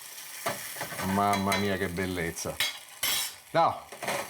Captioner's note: speaking Italian